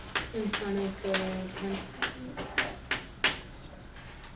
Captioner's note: voiceover